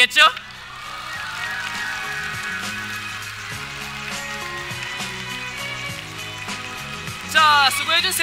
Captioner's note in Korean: 박수